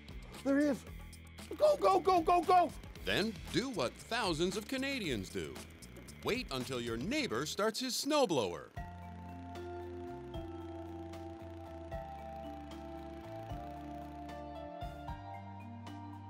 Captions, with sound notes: There he is! Go go go go go! [Voiceover] Then do what thousands of Canadians do... [Voiceover] Wait until your neighbour starts his snowblower.